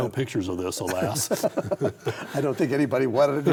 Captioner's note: both chuckle